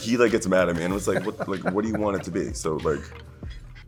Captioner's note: laughing